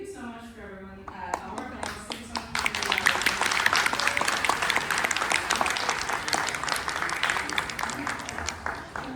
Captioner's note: applause and cheers